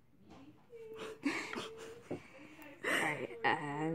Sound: chuckling

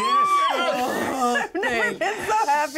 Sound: laughs

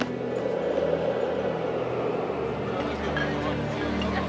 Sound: wind whistling

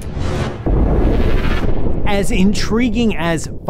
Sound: stars explode

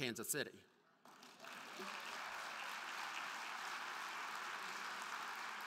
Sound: crowd clapping

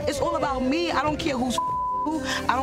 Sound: beep

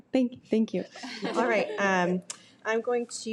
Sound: laughs

